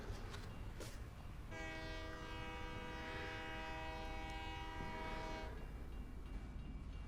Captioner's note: horn continues outside; crossing bells ding